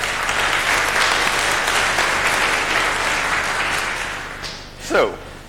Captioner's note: public applauding